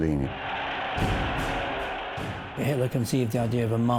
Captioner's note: crowd cheering